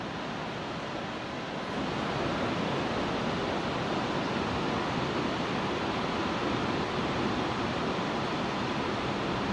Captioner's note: waterfalls sound